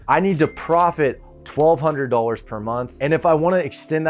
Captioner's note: cash register dings